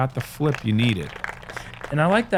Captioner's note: applause